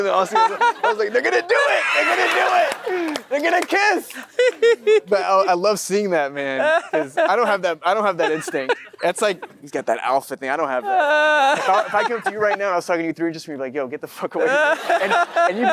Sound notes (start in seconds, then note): 2.6 Matthew & audience laughing; 4.1 Matthew laughs; 8.0 Matthew laughs